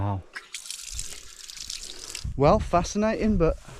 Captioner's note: water splashing